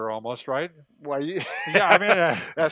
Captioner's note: laughs